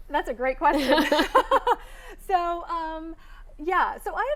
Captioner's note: both laughing